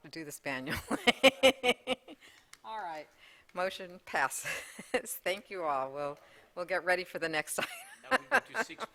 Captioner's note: laughter